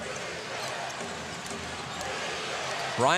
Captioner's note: crowd chanting, "defense"